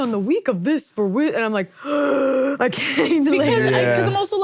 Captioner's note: gasps